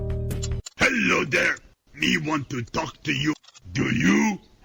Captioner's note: Cookie Monster's voice